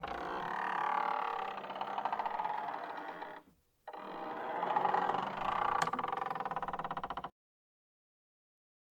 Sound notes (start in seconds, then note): 0.0 door creaking sounds